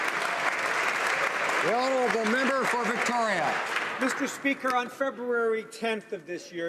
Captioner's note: applause